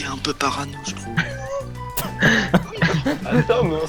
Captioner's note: is laughing